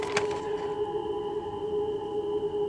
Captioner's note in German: Insektenlaute